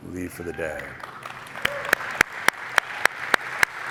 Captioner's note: applause